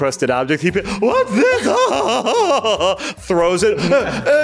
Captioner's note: laughs